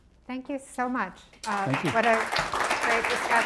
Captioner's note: applause